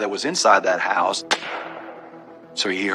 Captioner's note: gunshshotot